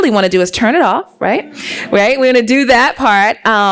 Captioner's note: laughs